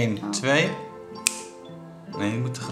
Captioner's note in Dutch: klik